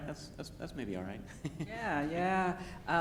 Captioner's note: laughs